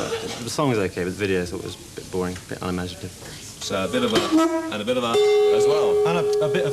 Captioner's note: parps horn; disapproving horn noise; approving gong